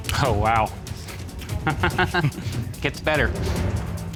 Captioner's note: laughs